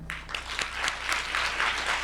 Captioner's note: applause